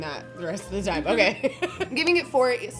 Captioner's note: laughs